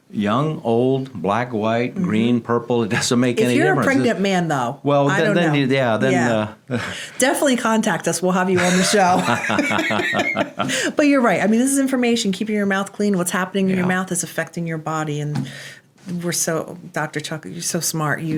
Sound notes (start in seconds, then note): 8.5 laughing